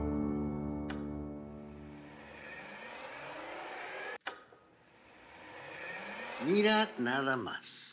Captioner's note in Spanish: sonido de la silla